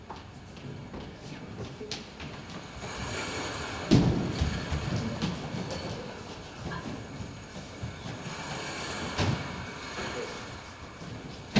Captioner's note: waves crashing